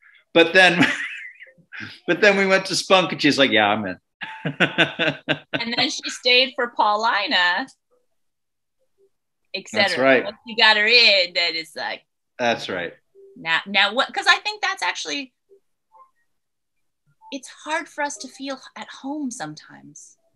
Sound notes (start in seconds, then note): 4.2 laughing